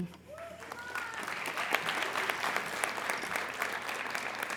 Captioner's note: applauding